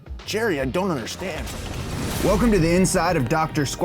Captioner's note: transition whooshes